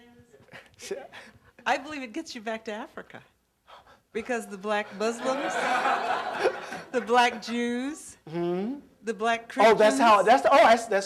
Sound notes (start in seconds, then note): 4.9 laughter